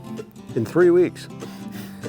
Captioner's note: chuckles; bluegrass music